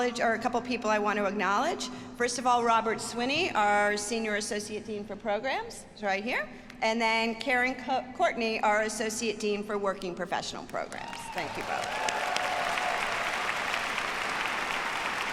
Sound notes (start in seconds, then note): 11.0 audience cheers